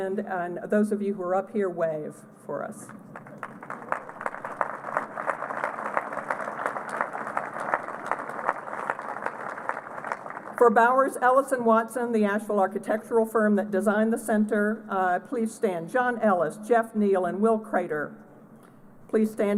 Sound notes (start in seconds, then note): 2.9 applause